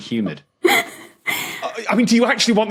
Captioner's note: wheezes